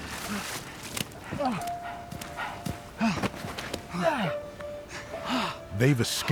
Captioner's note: gasping